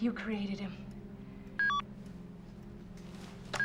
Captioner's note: beeping